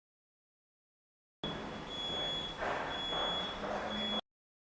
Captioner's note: heart monitor beeps